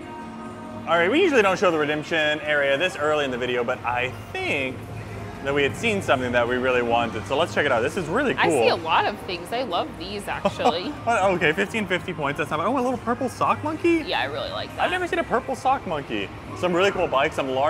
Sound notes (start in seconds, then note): 10.4 laughs